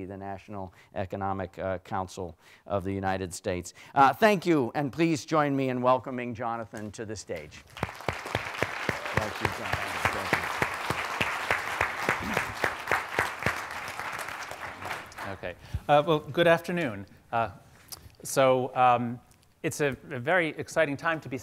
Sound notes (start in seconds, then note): 8.3 audience applauding